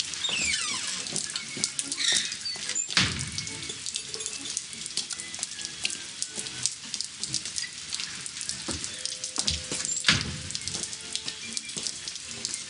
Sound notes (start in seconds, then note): 0.0 squeaky door opening and closing; 4.6 whistling